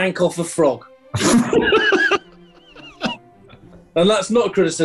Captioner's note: spluttering and giggling